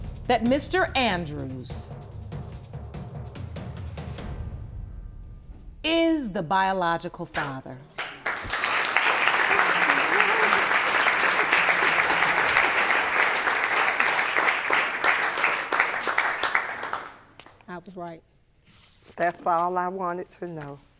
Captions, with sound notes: that Mr. Andrews is the biological father. (AUDIENCE APPLAUDING) I was right. That's all I wanted to know.